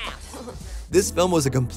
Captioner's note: chuckling